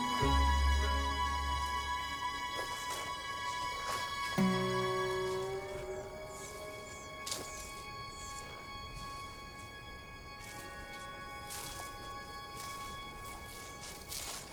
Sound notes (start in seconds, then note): 3.1 leaves crunching